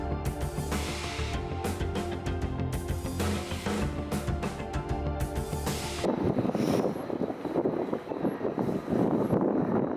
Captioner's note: waves crashing